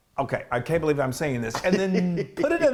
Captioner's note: giggles